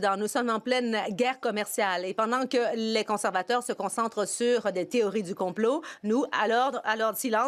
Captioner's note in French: voix de l'interprète